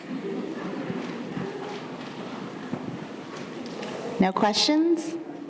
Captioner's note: audience chuckling